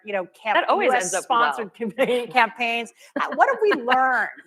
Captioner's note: laughter